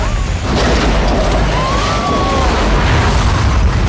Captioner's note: woman screams